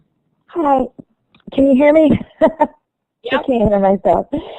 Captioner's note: laughter